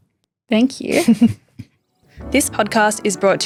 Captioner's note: chuckling